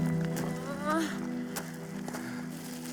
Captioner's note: groaning in pain